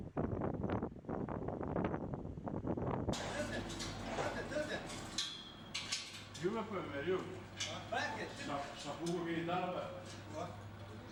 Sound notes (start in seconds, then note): 3.2 people talking in background